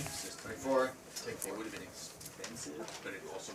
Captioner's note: indistinct chatter